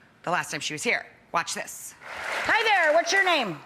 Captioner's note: applause